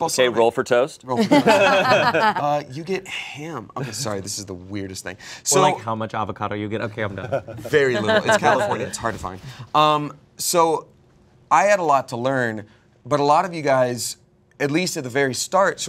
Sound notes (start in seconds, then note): 1.2 everyone laughs